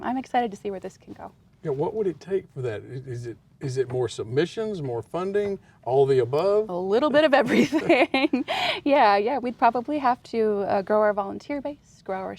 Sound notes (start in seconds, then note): 7.5 laughs